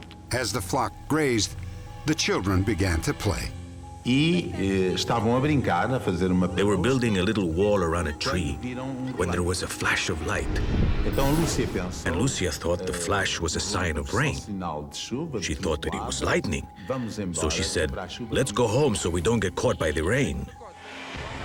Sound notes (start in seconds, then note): 4.6 speaking portuguese